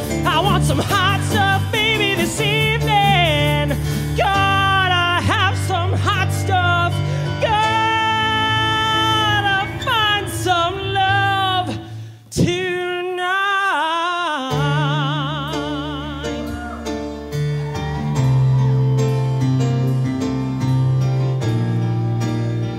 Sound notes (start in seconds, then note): 16.4 audience cheering; 19.6 upbeat piano music